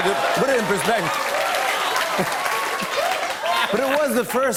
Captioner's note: laughter and applause